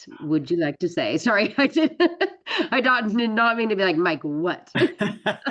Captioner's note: laughs; laughter